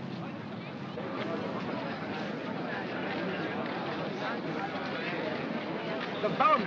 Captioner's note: crowd murmuring